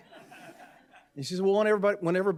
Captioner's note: audience laughing